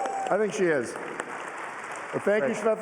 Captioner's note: applause